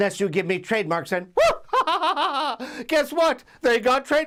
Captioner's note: laugh